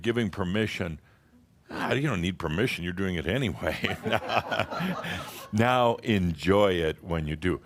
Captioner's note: Adamus chuckles